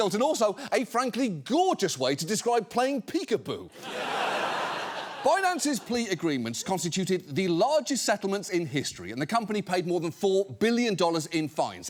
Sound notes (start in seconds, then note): 3.7 studio audience laughing